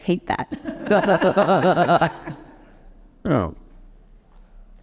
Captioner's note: both laughing